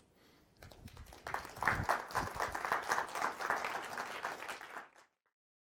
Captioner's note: applause